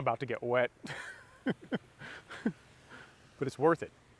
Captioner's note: laughing